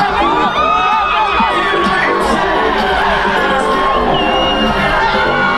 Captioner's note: crowd cheering